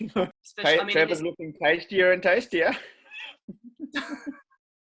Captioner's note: laughs